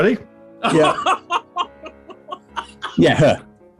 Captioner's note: laughing